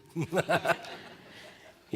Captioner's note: laughter